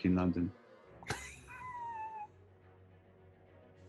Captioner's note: sniggering